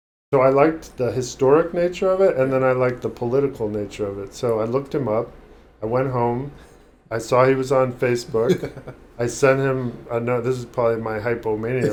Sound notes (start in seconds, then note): 8.3 chuckling; 11.0 laughing